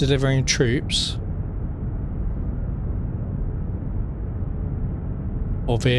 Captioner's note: wind blowing